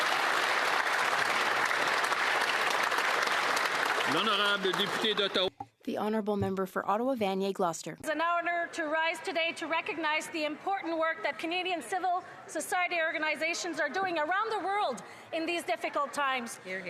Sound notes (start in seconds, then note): 3.2 some Applause